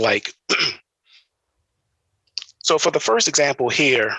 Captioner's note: clears throat